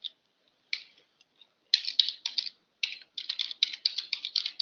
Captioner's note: typing